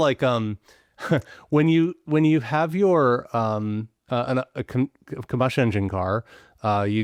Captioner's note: chuckles